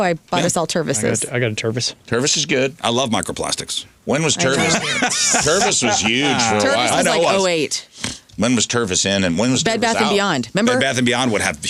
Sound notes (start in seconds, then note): 4.4 laughing